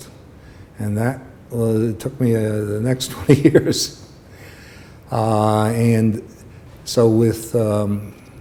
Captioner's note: laughter